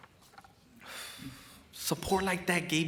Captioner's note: sighs